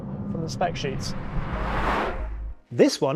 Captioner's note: vehicle revs